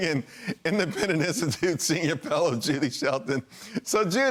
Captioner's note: laughter